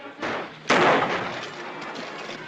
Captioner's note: gunshot